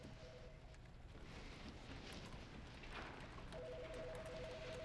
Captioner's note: telephone ringing